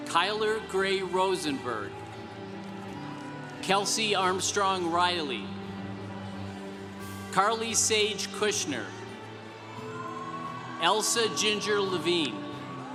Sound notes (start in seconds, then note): 2.5 congregation applauding; 10.2 congregation cheering